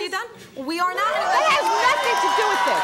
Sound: audience gasping

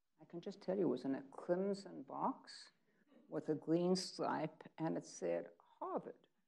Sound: none

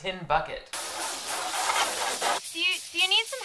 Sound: water sprayer squirting

